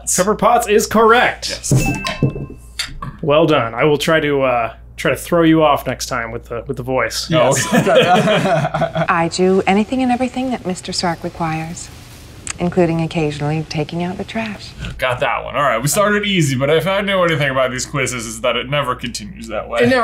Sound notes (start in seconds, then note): 1.6 bell dings; 7.4 laugh